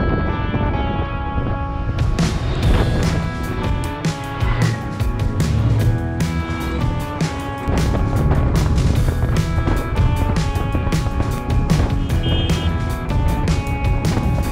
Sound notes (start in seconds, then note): 7.8 a gale of wind